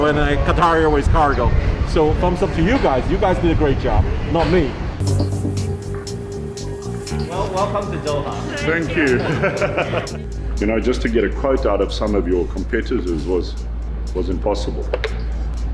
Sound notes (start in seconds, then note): 5.0 dramatic music; 9.1 laughing